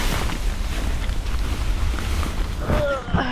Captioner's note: rummaging about